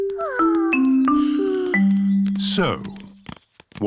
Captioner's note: peppa and george sigh